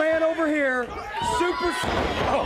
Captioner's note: crowd chatter